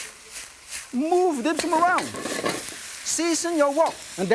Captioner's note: pork sputtering